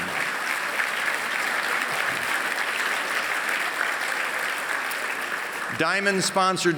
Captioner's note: applause